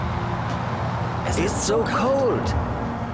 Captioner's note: in German